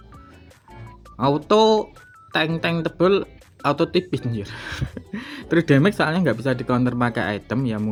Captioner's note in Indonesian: tertawa